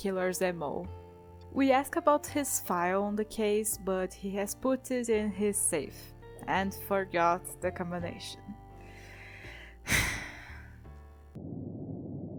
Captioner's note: sigh